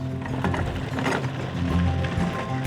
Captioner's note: carriage rolling